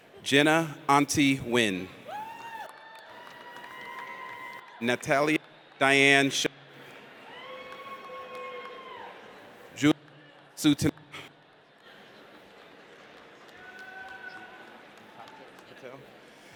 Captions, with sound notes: Jenna Ahn Ti Nguyen. (audience cheers) Natalia Diane Sheppard. (audience cheers) Julia Nasuta.